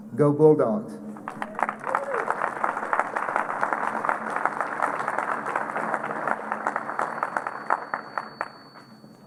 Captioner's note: applause